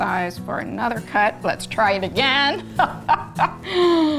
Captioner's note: laughs